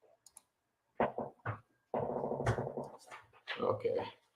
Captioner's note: mouse clicks